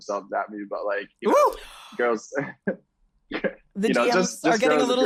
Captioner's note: gasps